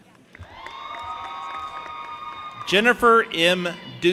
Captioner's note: audience applauding and cheering